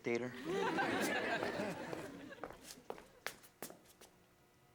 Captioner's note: audience laughs